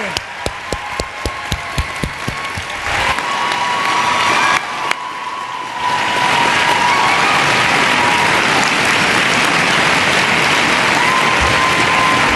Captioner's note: cheering and Applause